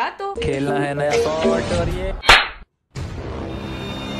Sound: slap

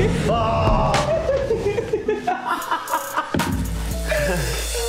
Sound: Tana laughing

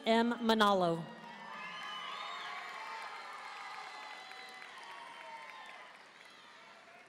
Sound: audience cheering and applauding

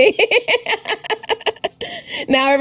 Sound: laughs

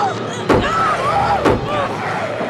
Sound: growling

